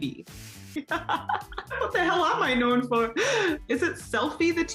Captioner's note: laughs